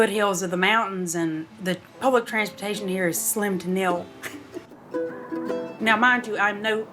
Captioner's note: laughs